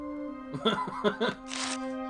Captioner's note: laughs